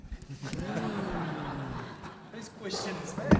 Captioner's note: audience laughs